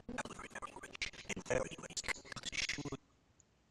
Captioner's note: audio skipping